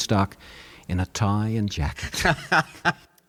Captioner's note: laughing